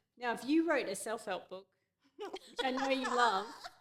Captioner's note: immediately laughing